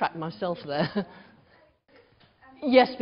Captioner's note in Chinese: 無聲